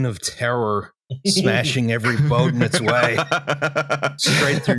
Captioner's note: laughter